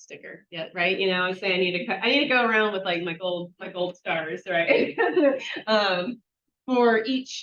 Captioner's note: laughs